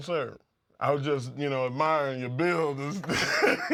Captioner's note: laugh